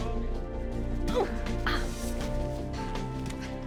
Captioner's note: Sharon groans